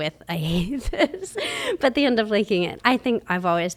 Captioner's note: laughs